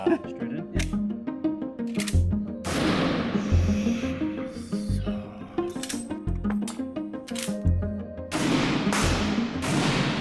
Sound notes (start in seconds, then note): 1.8 gun clicks; 2.6 gun fires; 7.2 gun clicks; 8.3 gun fires